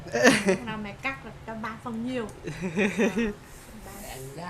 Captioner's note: laugh